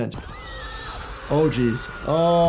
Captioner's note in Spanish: mujer grita